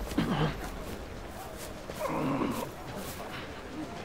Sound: groan

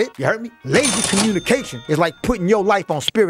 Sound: cash register rings

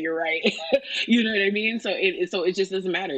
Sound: laughs

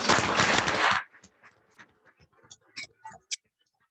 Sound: audience applauds

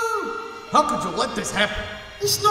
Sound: Ukranian accent

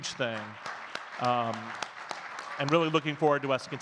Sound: audience clapping

